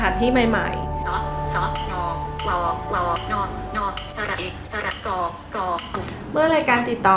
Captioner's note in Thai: เสียงโทรศัพท์